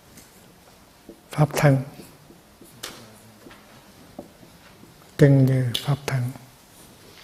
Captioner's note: tiếng Trung